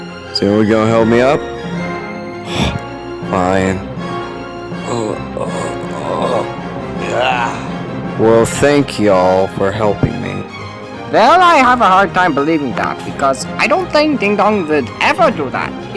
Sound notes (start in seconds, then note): 2.4 sigh; 4.8 the president groans as he gets up